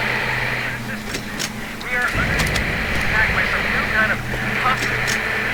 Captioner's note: Static